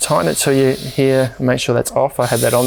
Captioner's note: gas whizzing